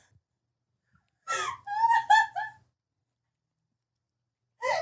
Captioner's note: laughing